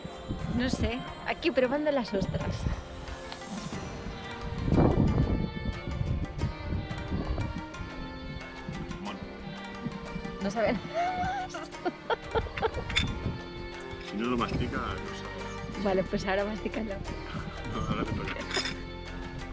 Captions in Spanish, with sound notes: ¿Se mastica o no? no sé, aquí probando las ostras Bueno...no saben (risas) Si no lo masticas no sabe ... Pues ahora masticalo! No ahora te toca a tí